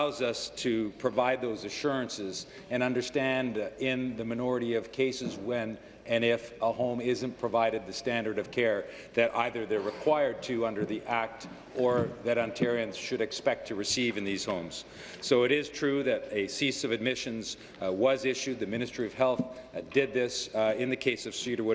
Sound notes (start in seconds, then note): none